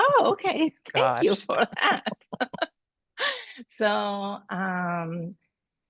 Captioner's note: laughter